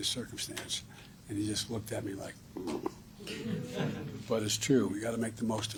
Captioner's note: laughter